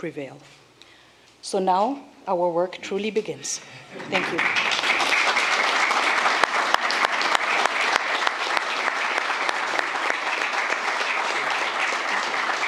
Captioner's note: applause